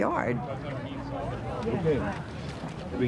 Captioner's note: people talking in background